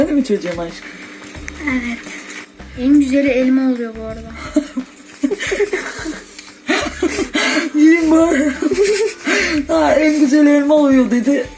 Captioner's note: laughs